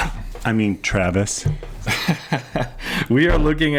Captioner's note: laughs